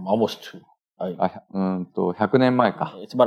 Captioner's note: speaking japanese